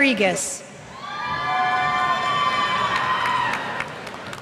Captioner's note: cheers